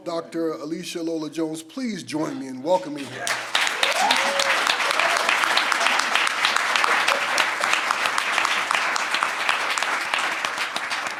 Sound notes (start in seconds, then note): 3.0 everyone applauds and cheers